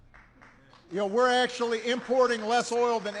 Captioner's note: applause